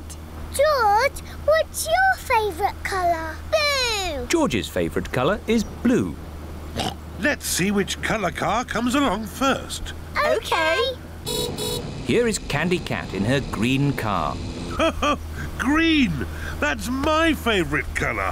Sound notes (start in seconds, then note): 6.7 oinks; 11.2 horn beeps; 14.6 laughs